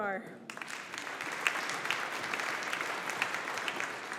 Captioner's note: audience applauding